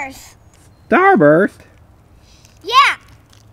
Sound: voiceover

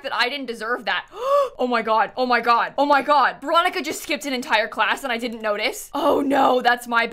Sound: gasps

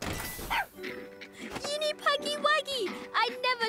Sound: barks

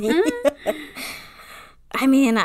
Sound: laughs

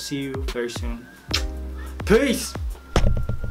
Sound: makes kissing noise

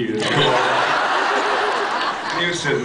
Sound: laughs

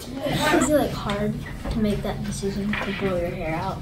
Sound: none

